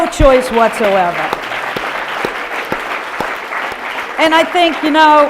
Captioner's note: audience applause